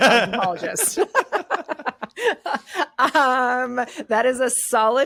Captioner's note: laughing